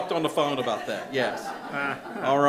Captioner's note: board members laughing